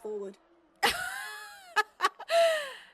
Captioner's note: Mary laughs